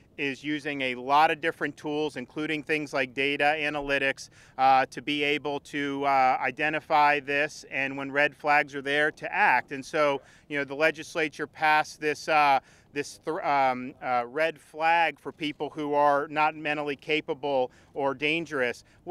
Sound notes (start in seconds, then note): none